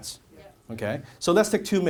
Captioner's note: audience says yes